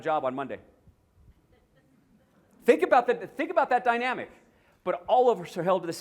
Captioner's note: laughter